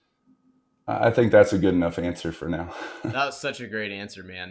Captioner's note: laughs